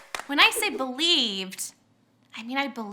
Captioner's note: whooshing